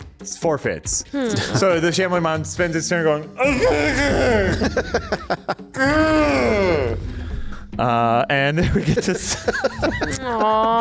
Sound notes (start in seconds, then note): 3.4 unintelligible angry grunting; 3.4 laughing; 5.7 more unintelligible angry grunting; 8.6 laughing